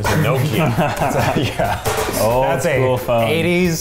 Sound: giggling

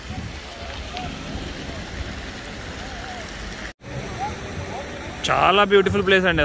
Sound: water sound

